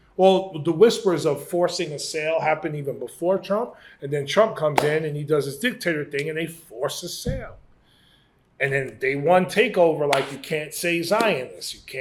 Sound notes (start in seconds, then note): none